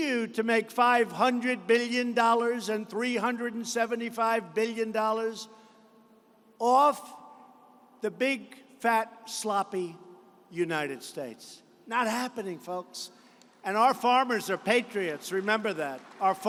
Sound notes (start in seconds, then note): 14.0 applause